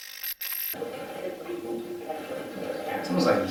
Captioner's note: static playback transmitting; static fizzing